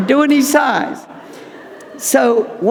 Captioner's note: audience laughing